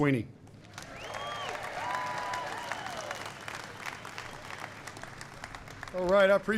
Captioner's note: applause